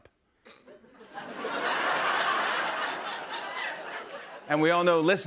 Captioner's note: laughter